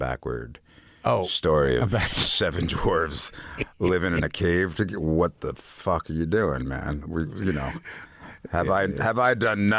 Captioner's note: laughs